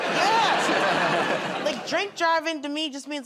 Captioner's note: laughter